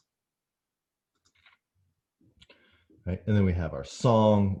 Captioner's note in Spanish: computer mouse clicking softly